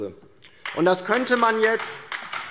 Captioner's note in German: Beifall DIE LINKE